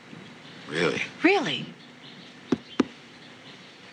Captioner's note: pats box